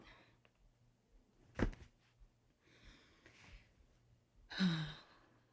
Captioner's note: cellphone thuds; Summer sighs